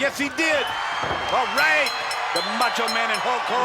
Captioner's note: bell rings